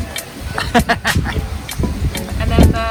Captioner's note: laughing